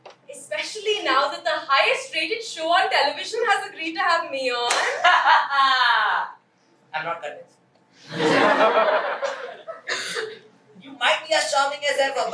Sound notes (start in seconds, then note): 5.6 Mukund laughs